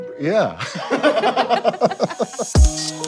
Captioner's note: laughter